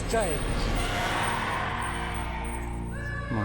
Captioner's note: yelling